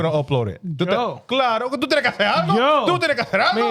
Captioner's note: speaking In Foreign Language